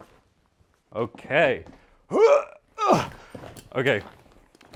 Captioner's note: grunts